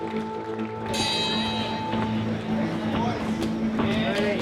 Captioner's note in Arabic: رنين الجرس